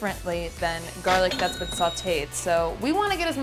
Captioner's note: cash register chimes